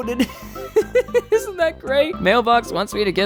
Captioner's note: laughs